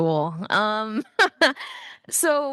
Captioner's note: panelist chuckling